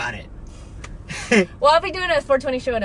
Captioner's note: laughs